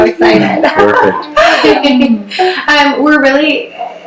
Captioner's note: laughs